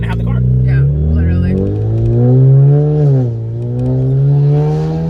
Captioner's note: engine revving